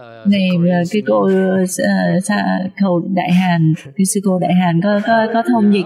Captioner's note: laughter